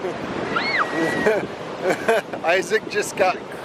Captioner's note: child squeals